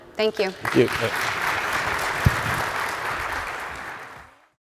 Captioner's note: audience applauding